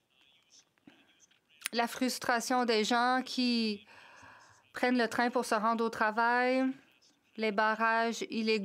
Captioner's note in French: voix de l'interprète